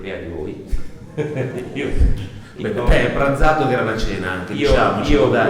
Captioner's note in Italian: risatina